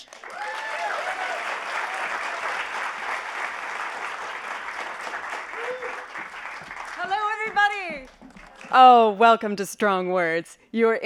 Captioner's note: applause